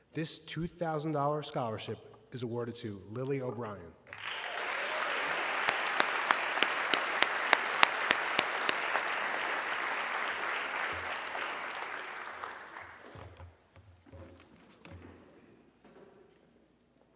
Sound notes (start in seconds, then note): 4.3 audience clapping